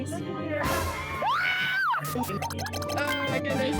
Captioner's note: terrified screams